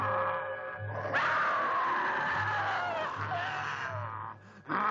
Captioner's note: Priscilla screams